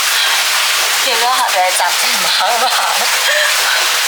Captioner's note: laughs